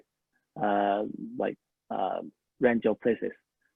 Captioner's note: speaking a foreign language